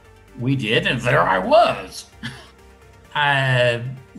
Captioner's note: chuckles